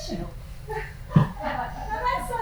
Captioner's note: women laughing